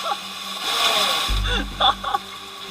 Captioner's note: laughter